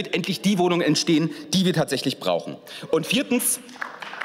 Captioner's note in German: Beifall